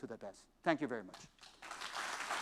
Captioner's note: applause